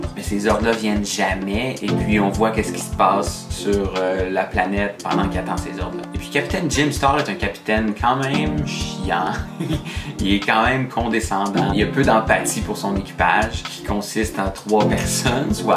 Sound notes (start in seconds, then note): 9.5 laughs